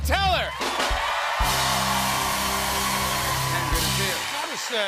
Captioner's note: cheers and applause